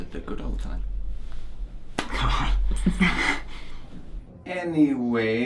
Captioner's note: chuckling nervously